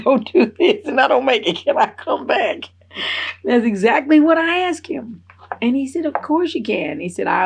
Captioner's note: laughs